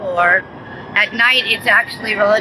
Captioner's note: siren wailing